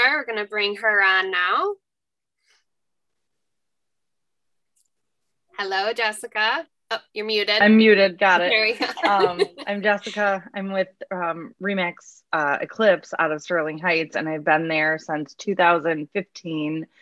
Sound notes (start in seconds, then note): 8.6 laughs